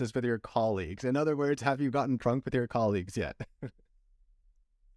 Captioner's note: laughter